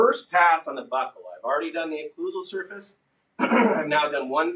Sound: coughs

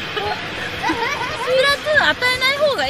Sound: laughing

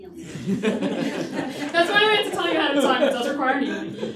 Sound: laughter

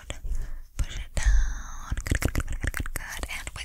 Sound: mouth Clicks

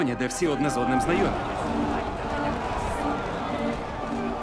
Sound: crowd yelling, clamouring

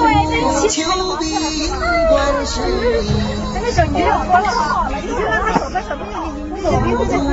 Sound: cheers of happiness

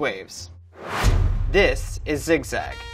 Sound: whooshing; trumpet blares

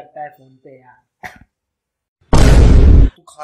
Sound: coughs

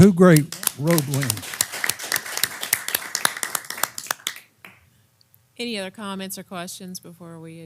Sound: applause

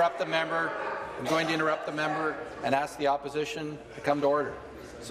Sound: voice trailing

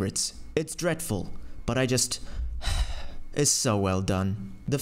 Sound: sighs

